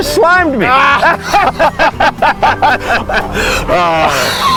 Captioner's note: both laughing